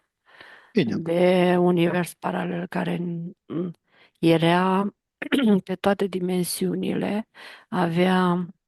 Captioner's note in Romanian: voce dreasă